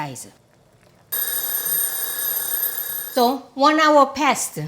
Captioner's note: timer ringing